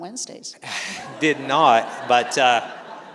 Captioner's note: laughter